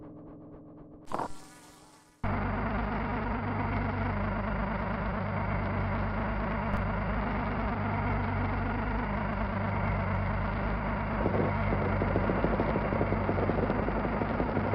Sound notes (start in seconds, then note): 1.0 machines in distress